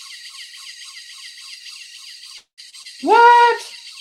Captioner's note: machine whirring